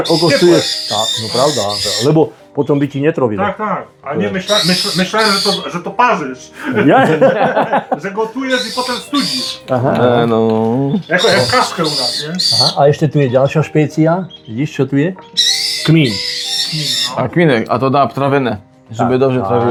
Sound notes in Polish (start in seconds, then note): 6.5 śmiech